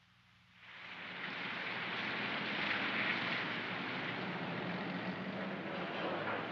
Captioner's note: rain pattering